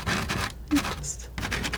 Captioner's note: scratching